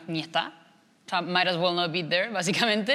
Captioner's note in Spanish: habla en inglés